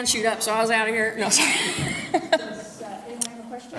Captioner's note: laughs